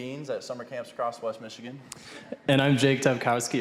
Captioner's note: audience chuckling